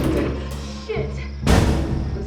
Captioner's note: doors slamming